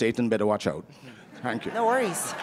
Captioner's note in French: applause